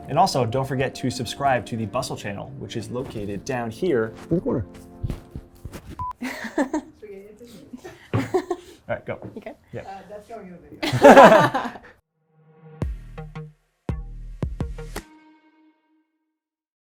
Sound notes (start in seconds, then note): 6.0 low beeping; 6.2 laughing; 10.8 both laughing; 12.3 mellow music